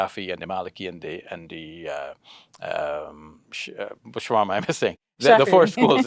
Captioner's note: speaks foreign language